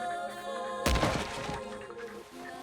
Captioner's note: crashes